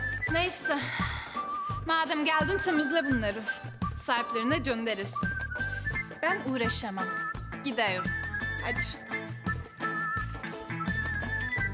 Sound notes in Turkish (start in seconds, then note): none